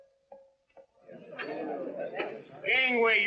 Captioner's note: chattering